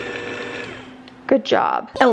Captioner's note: mixer stops